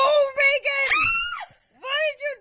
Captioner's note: gasps; screams